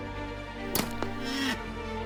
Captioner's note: dart gun shot; rhino whines